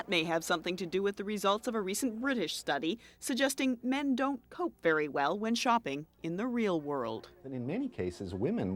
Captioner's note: none